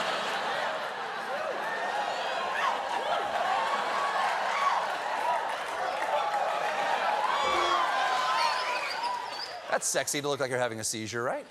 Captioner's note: laughter; piano riff